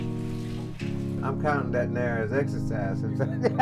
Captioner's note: laughs